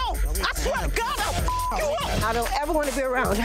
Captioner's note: beep